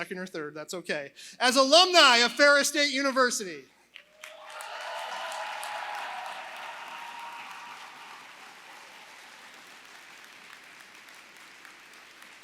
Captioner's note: applause